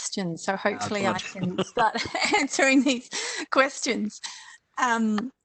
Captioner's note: laughs